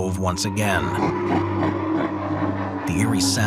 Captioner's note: voice laughing